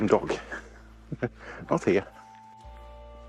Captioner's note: chuckles